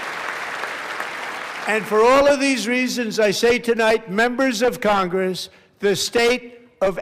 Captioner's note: applause